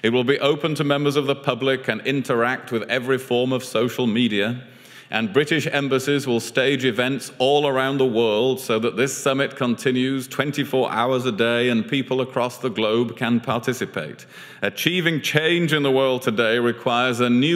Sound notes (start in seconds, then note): none